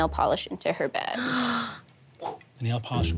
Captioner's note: gasps